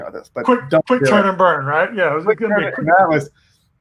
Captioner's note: murmurs